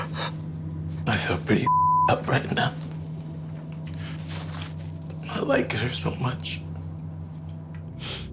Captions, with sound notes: - I feel pretty (beep) up right now. I like her so much.